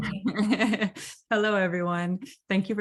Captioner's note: laughs